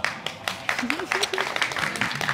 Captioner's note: giggles